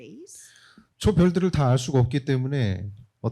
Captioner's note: speaking korean